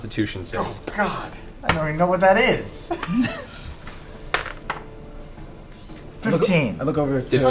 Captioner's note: laughs